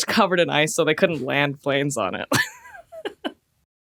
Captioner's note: laughs